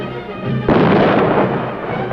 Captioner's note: explosion